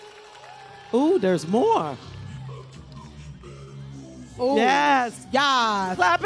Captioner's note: cheers and applause